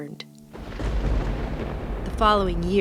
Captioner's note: thunder